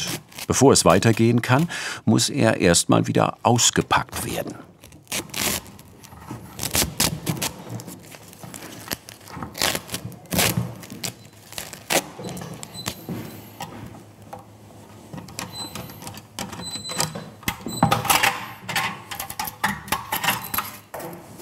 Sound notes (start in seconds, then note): 16.3 squeaking